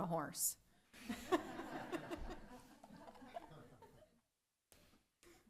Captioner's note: laughter